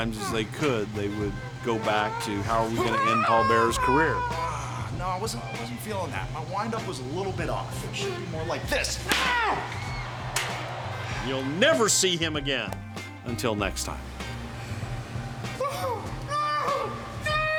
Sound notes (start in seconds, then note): 9.1 chair smacks